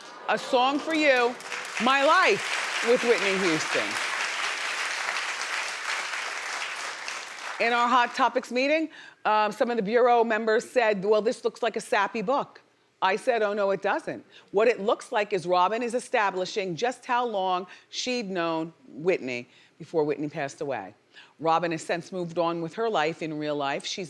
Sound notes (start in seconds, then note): 4.8 audience applauding